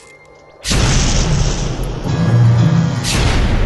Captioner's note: explosion